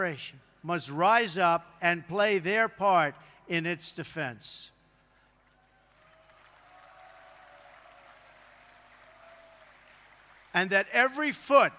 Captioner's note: applause